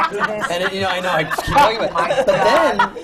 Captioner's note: laughter